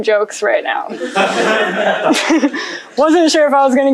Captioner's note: laughter